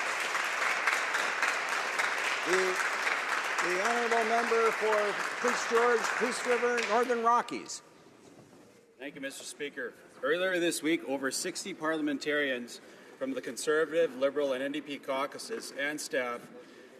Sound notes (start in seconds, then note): 2.4 applause